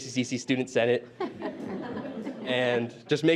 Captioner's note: all laughs